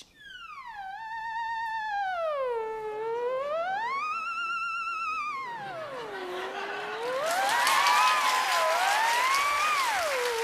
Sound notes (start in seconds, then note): 0.0 theremin plays; 5.6 cheers and applause; 5.8 laughter